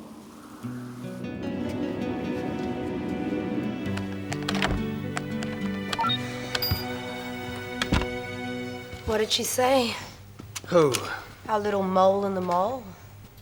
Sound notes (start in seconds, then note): 0.8 slow soft music; 5.9 computer beeps